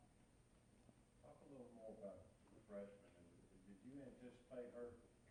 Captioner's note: crowd speaking quietly